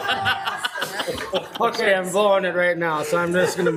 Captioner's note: laughing